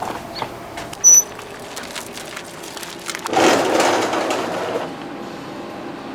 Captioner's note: dirt scrunching; metal squeeking